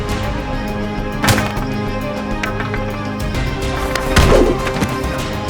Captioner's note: pole thuds; kicks whooshing and thudding